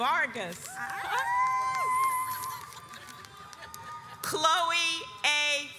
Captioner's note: audience cheers